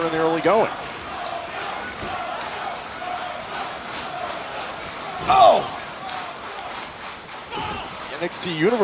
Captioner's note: crowd cheering